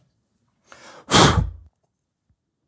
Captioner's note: blows air